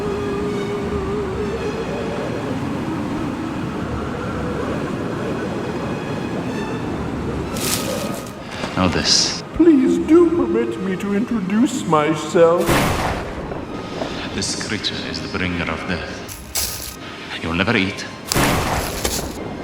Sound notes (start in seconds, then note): 9.6 echoed; 12.6 lighting Strike; 18.4 lighting Strike